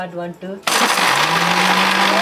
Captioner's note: noise of the blender